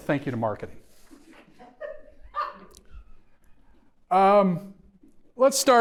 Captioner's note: audience member laughs